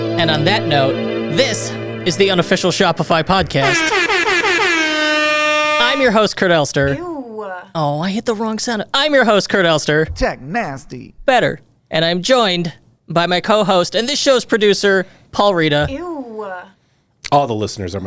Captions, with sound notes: - And on that note, this is the unofficial Shopify podcast. (air horn blaring) I'm your host, Kurt Elster. - Ewe! - Oh, I hit the wrong center. I'm your host, Kurt Elster. - Tech nasty. Better, and I'm joined by my cohost, and this show's producer, Paul Reda. - Ewe! - All the listeners